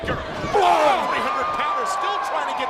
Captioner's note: Big Daddy groaning